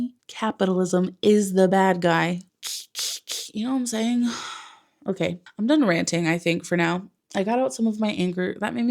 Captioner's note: stabby noises